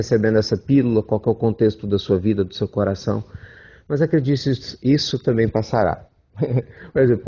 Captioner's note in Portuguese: risos